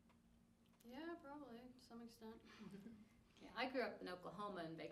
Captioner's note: laughs